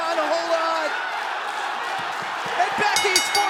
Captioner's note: bell ringing